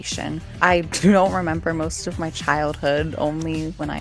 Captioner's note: severe bloody cough